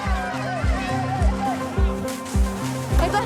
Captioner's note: hoses spraying